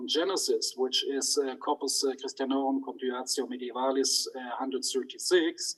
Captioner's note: speaks in foreign language